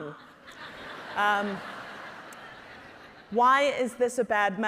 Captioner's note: audience laughing